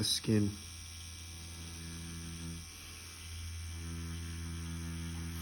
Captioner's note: machine whirring